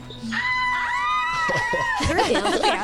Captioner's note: screaming